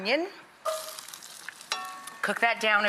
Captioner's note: sizzling